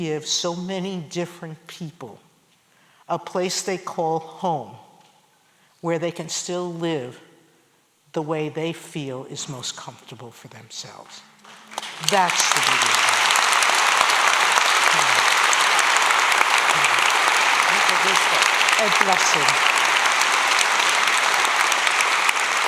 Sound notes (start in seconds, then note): 18.8 spanish; 19.7 applause